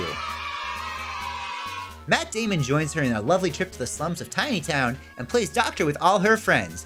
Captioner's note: cheering